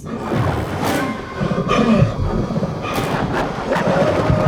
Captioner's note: gasping